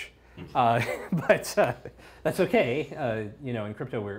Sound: laughs

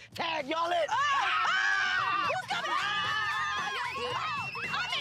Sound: all scream

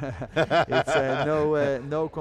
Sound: laughs

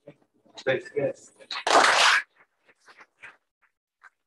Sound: applause

